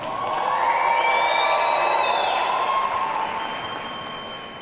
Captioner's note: audience cheering